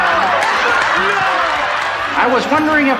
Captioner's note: audience laughing